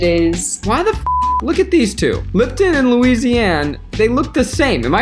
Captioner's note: beep